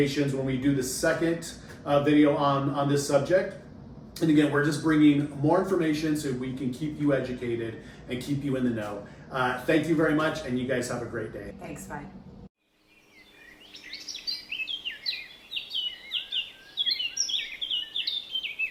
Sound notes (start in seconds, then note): 12.6 birds singing